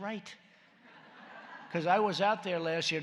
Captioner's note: laughter